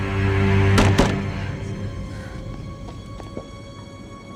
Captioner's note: Mindy knocking